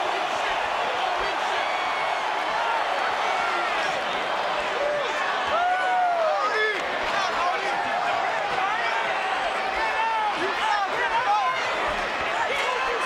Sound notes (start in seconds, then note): 6.3 audience chattering